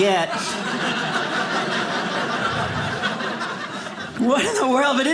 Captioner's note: audience laughing